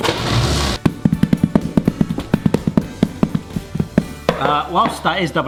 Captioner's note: dough plops; plastic creaks; door rumbles; rolling pin thumps